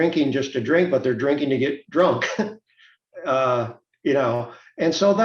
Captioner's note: chuckles